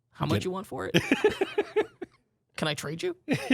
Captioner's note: laughs